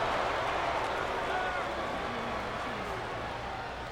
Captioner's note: crowd clamoring